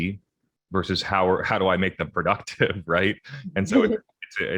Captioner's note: chuckles